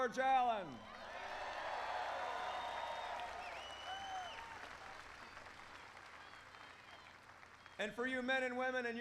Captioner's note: applause